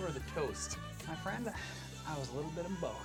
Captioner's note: singsong voice